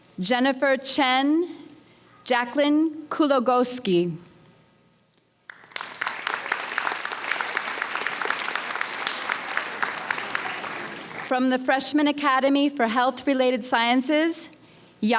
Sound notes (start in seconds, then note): 5.4 audience applauds